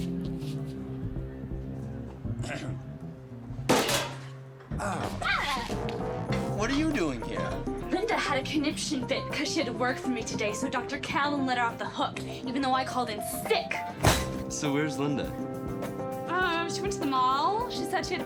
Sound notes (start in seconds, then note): 2.4 clears throat